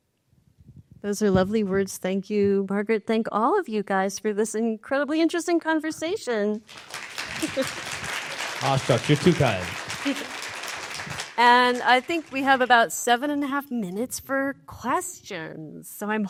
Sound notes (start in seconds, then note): 6.6 applause